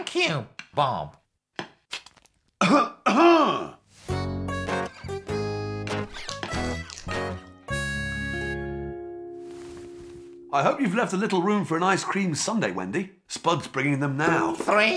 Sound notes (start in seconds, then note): 2.6 bob clears his throat